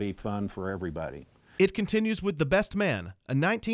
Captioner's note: voiceover